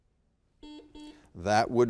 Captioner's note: buzzer beeps